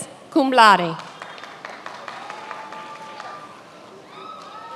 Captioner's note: many applauding